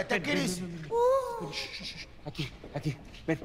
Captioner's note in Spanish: Quejidos